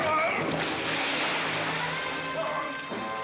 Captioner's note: dramatic music; splash